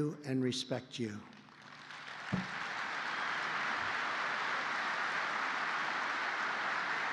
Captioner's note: applause